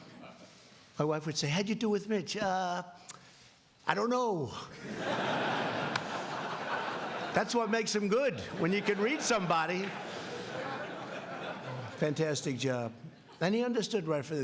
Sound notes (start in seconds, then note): 8.4 laughing